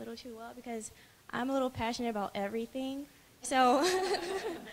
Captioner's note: lughter